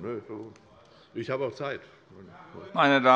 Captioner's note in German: Unruhe - Glockenzeichen des Präsidenten